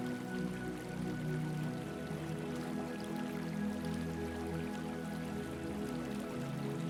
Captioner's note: water trickling